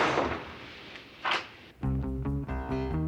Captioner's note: lock clicks; tense music